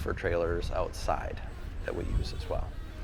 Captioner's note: vehicle rumbling